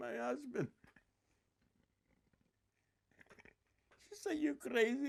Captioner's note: laughing